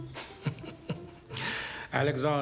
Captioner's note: Wendell laughing